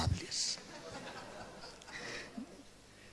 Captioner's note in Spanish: Risas